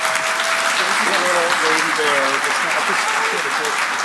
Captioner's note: applause